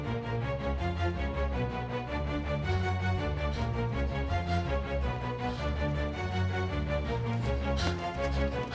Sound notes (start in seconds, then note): 2.7 jogger panting